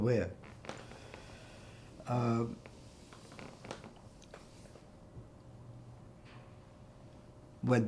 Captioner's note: pauses 6 seconds